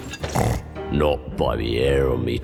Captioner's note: snort